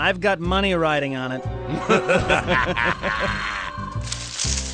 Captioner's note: laughter